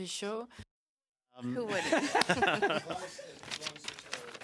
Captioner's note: speaking French